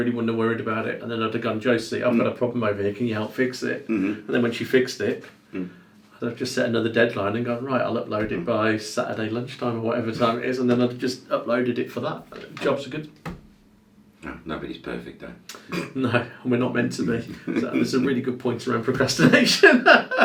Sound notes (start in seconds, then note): 17.2 laughs